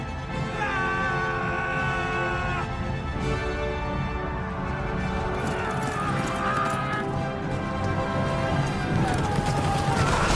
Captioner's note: cavalry charge noises; battle noises